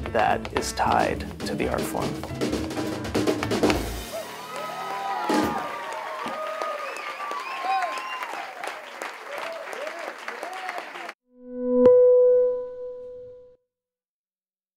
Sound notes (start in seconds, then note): 4.0 cheering